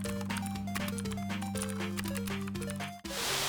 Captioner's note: typing